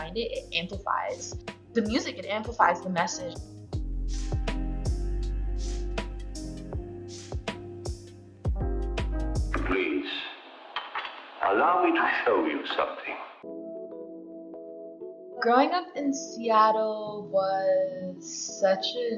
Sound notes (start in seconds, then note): 3.9 soft ambient music; 9.9 old-Timey Voice